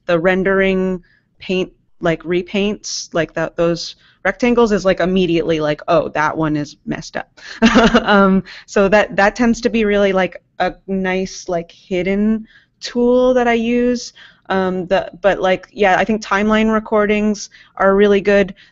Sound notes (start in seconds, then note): 7.6 chuckles